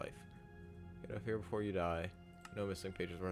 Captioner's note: mumbles